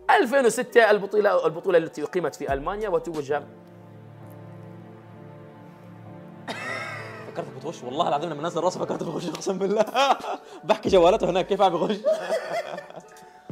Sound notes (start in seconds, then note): 3.5 sad music plays; 6.5 laughs; 8.8 laughs